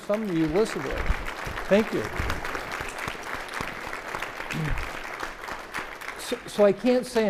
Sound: audience applauding

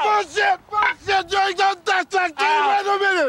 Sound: mumble yelling

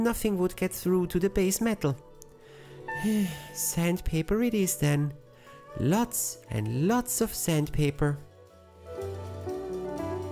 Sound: sigh

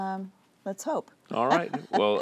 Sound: laughter

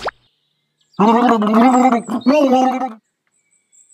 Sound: gargling

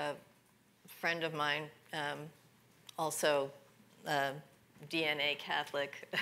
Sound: chuckles

